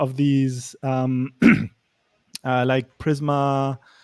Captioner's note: clears throat